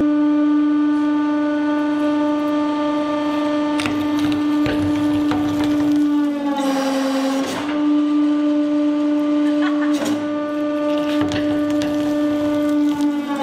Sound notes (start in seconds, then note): 9.5 laughs